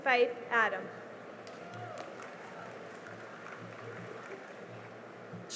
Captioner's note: cheering and applause